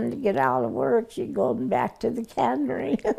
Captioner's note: giggling